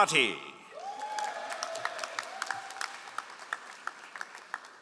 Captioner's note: all applauding